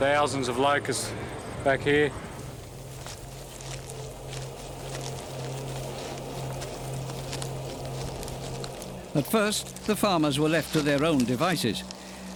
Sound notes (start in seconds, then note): 2.4 grass crackling; 2.4 locusts fluttering